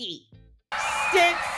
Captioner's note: cheering